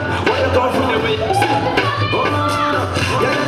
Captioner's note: intermittent cheers